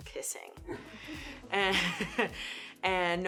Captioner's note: laughs